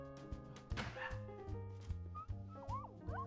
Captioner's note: dog barking; dog whimpering